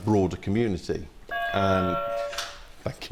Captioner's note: buzzer